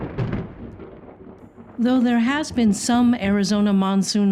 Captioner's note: thunder